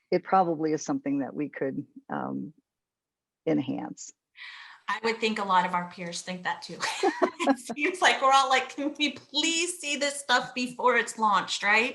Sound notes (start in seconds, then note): 6.8 all laughing